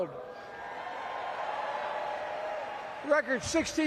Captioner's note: cheering